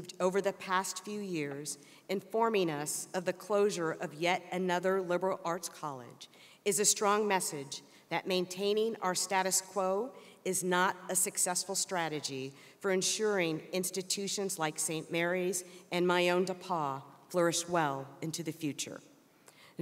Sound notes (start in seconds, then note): none